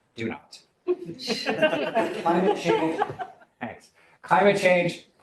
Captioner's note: laughter